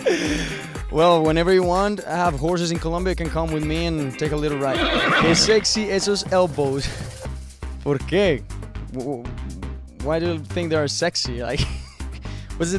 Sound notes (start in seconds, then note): 3.6 horse neighing; 5.8 speaking in Spanish